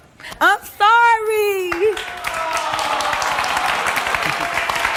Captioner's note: audience applauds